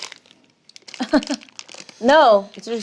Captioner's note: laughs